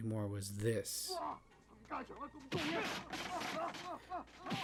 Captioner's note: fighting sounds